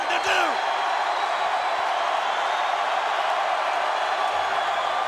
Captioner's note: audience cheering continues